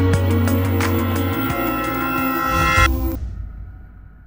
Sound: outro music; CB Aviation sound

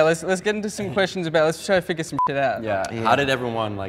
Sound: beep

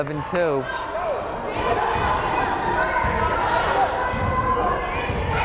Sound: crowd chattering

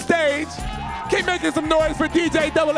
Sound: audience cheering

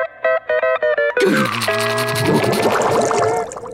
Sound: growling

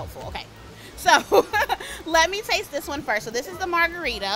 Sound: laughs

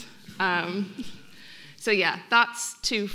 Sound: audience laughing

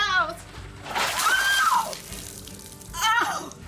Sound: screaming

